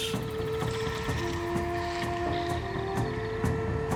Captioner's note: birds chirping